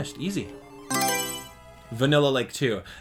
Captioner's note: Mario Selection Sound